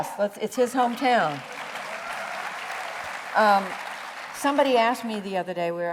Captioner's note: applause